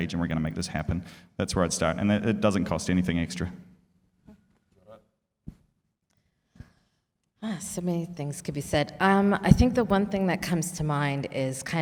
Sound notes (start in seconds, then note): none